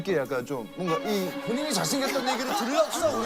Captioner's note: holding in laughter